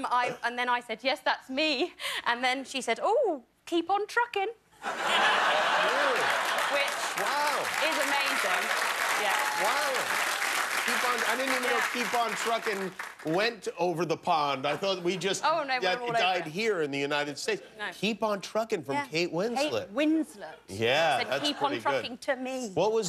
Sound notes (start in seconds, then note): 7.9 applause